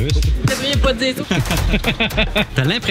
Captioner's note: laughs